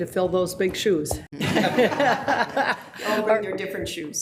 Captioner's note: people laughing